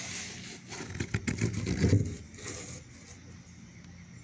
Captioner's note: scraping nails across wood